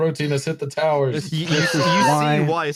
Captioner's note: laughter